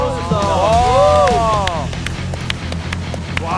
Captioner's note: unbridled applause